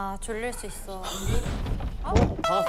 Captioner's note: bang